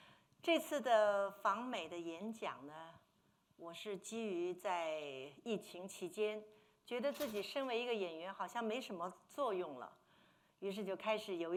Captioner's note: speaking Mandarin